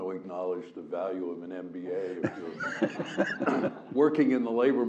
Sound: laugh

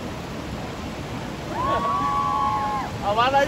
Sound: girls screaming

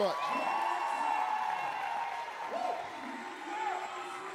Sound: audience cheering

